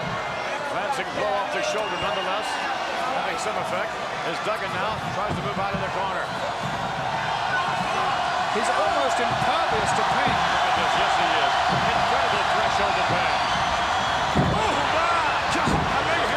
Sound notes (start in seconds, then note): 10.4 crowd cheers